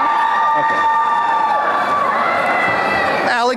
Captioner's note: applause and cheering